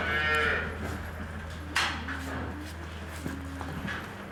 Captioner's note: calf mooing